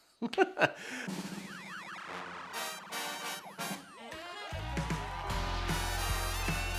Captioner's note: upbeat music; people applauding